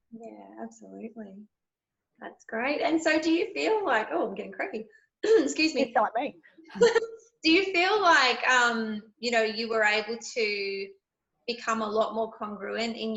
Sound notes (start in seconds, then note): 5.2 coughs; 6.7 laughs